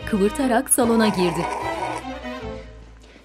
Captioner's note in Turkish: Höpürdetme sesi